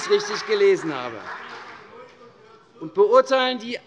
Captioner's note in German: Beifall CDU